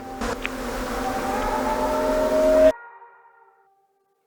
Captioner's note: muffled screaming